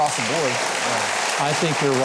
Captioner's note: applause